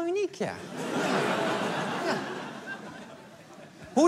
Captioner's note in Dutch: Gelach